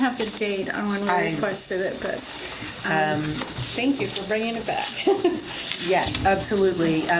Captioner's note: laughs